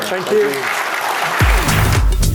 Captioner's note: applause